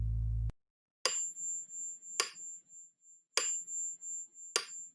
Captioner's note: metronome ticking